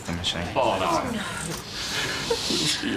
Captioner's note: crying